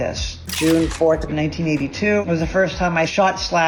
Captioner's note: camera clicking